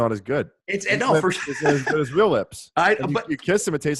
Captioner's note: laughs